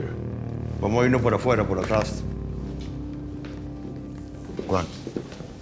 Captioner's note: speaking spanish